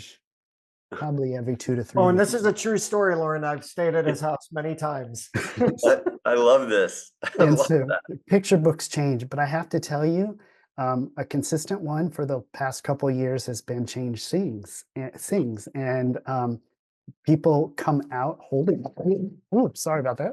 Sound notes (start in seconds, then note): 5.3 laughs